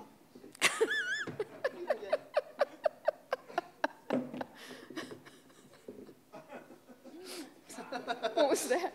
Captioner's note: laughing; laughing